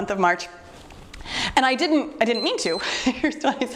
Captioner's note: timer beeps